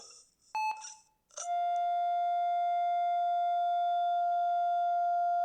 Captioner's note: flatline